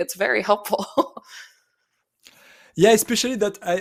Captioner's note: chuckles